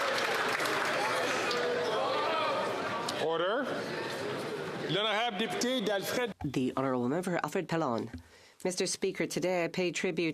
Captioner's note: some Applause